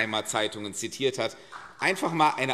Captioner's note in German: Demonstrativer Beifall